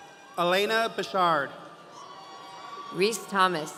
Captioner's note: audience cheering